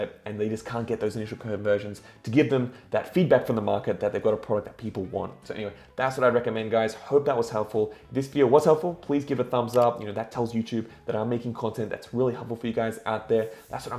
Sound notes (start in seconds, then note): 9.6 clicks